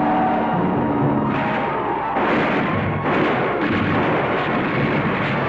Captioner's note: bullets firing